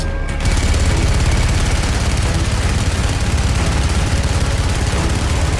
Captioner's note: machine gun fire rattling